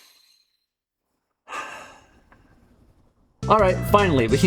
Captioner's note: sigh of great disappointment towards all of humanity